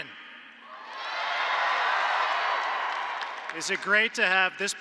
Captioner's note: applause